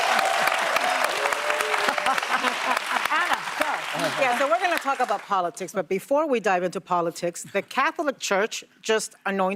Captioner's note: applause